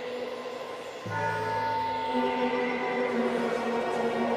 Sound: bells tolling

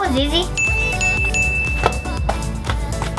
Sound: ding ding ding; slap slap slap

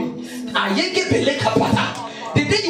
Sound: speaking in tongues

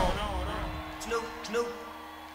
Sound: audience applauding

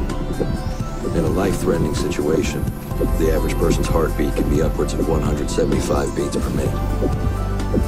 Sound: pulse

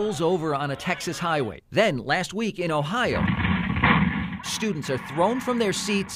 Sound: screams

